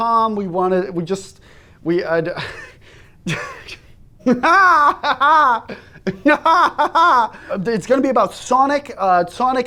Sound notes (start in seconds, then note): 4.2 odd laughter